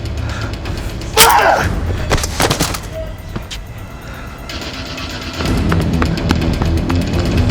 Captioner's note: neck snapping; body thudding; intense orchestral music